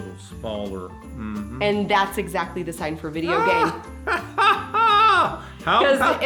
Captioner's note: Santa laughs